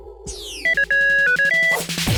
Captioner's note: beeping